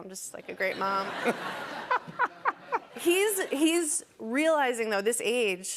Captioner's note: laughs